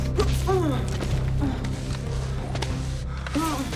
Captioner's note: grunting